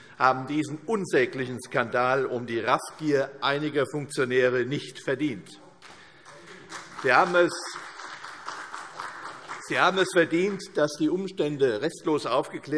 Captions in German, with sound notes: haben diesen unsäglichen Skandal um die Raffgier einiger Funktionäre nicht verdient. [Beifall CDU] Sie haben es verdient, dass die Umstände restlos aufgeklärt